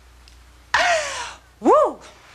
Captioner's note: breathing